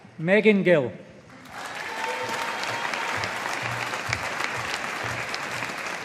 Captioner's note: audience applauding